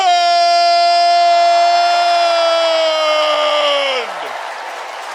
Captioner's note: cheering